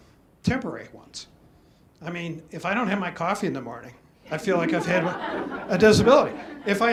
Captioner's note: audience laughs